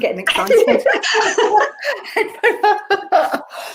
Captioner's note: laughs